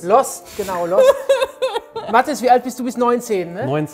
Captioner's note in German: Lachen